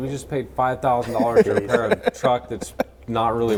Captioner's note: laughing